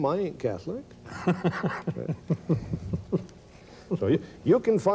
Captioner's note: laughs